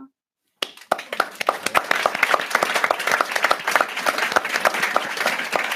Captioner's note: applause